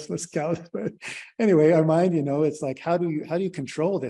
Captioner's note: laughter